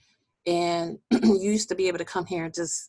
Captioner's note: clearing voice